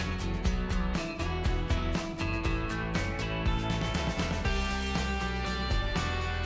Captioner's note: lively music; whisk whirring; whisk tapping